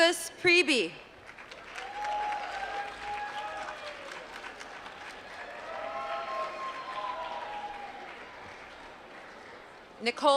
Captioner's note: applause